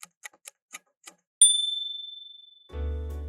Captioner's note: clock ticking; ding!